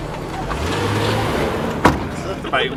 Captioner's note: car revs; boot door slams